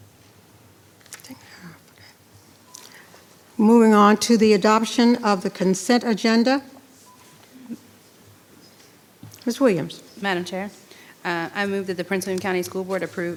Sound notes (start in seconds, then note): 1.7 speaking faintly